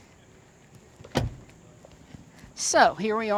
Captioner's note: car door shutting